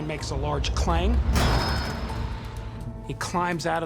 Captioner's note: metal clangs